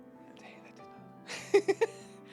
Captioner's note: laughing